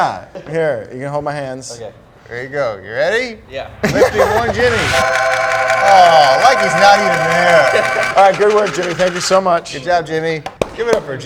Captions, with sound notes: - Yeah. Here. You can hold my hands. - Okay. - There you go. You ready? - Yeah. - Let's do one Jimmy. (angelic music) (jack whirring) - Oh, like he's not even there. - All right. Good work, Jimmy. Thank you so much. - Good job, Jimmy.